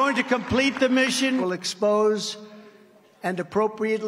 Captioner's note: applause